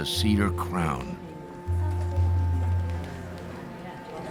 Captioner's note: people talking quietly